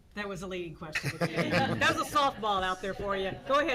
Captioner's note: laughing